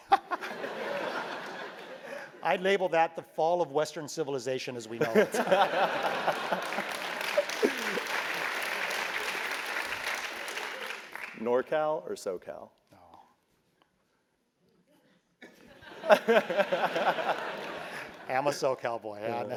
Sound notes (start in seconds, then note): 0.3 laugh; 5.0 laugh; 5.4 applause; 15.8 laugh